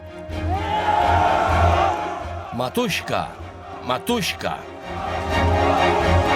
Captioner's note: soldiers cheering; soldiers chanting in Russian